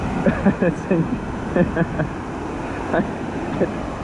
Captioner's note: laughs